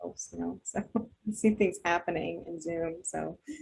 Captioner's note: chuckles